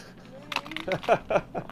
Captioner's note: laughing